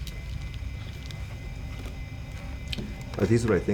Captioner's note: machine whirring softly